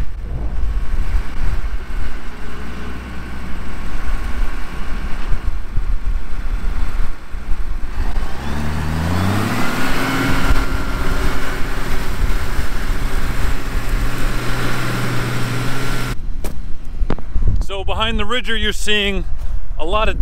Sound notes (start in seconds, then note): 4.1 tractor sound